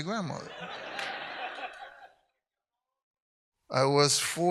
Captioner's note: audience laughs